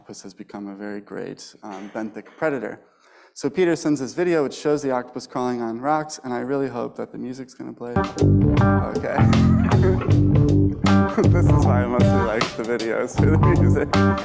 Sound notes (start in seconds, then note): 7.9 upbeat jazzy music; 9.3 laughs